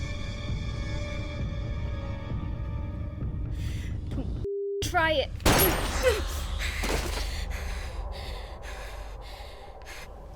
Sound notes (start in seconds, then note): 5.4 gun firing; 6.4 Lucy panting; 6.8 spider thudding; 6.9 tense music